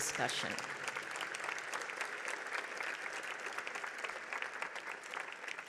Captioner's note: audience clapping continues